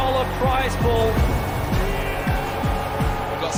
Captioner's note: all cheering